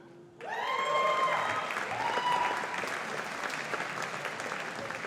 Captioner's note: audience applauding